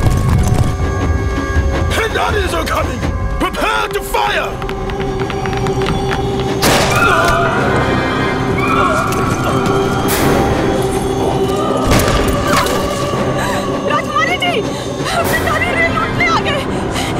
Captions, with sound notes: Pindaris are coming. Prepare to fire. [Gunshot] [Gasps] Princess. The Pindaris are here to loot the train.